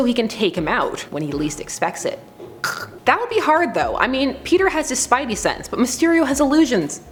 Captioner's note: neck snap